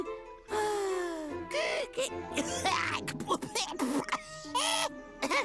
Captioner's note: cough